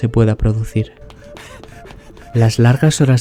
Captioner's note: gasps